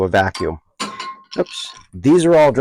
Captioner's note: lid dropping sound